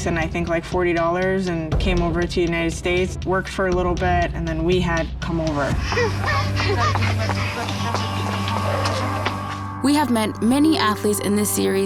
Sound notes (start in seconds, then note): 5.9 giggling